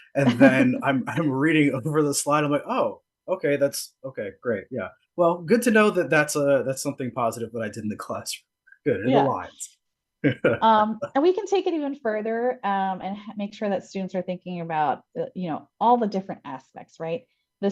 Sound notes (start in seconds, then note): 10.2 laughs